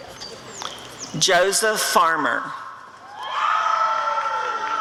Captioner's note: applause and cheering